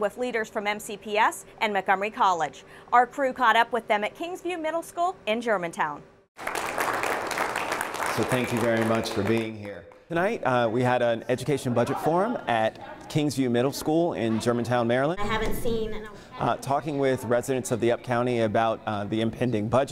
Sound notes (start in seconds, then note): 9.0 applause